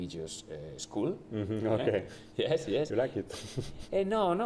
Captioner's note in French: rires